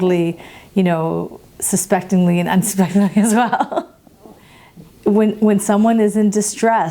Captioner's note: laughs